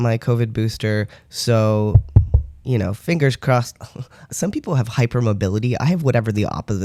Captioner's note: knocks on desk